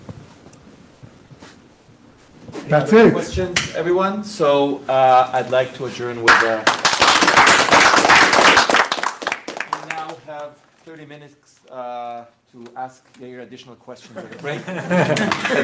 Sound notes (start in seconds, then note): 9.8 applauding